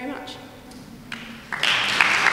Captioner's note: aplause